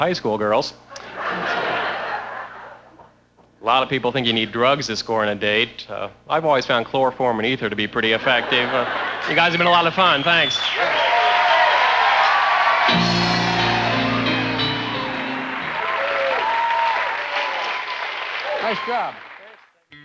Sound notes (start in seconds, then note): 0.0 laughter; 7.6 cheers and applause